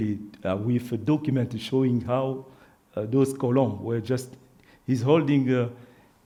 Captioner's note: speaks French